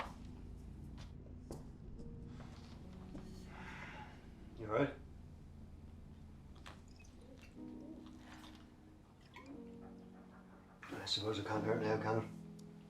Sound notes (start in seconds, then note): 7.3 bottle swishing